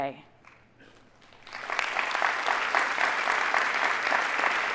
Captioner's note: audience applauding